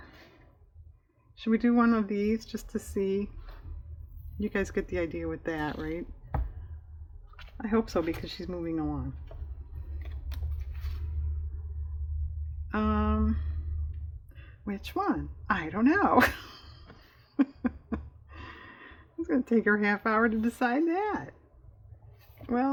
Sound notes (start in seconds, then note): 16.2 laughs